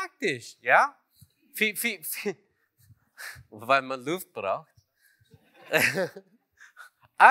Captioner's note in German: Lachen